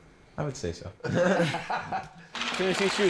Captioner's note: laughing